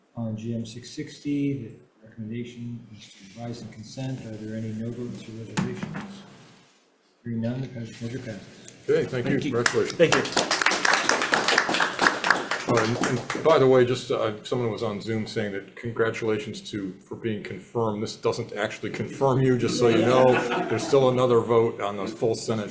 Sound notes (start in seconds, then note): 9.5 hands clapping; 19.6 participants laughing